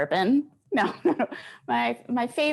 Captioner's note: chuckles